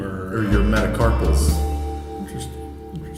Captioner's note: alarm ringing